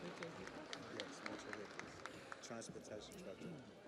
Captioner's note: audience applauds